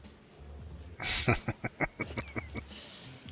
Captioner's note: chuckling